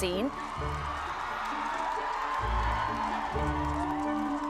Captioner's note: crowd cheering